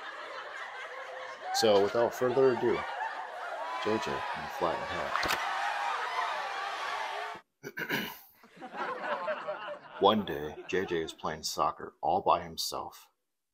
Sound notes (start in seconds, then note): 0.0 laughter; 7.6 clears throat; 7.6 laughter